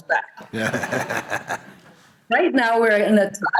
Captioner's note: laughter